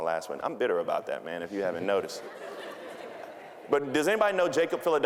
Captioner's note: audience laughing